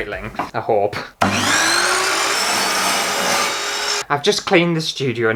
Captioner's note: loud Scary Power Saw Sounds